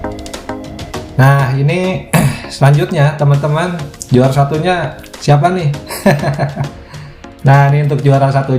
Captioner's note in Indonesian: tertawa